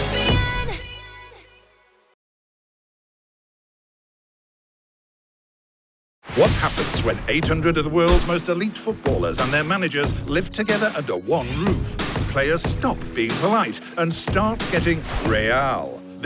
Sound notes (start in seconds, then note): none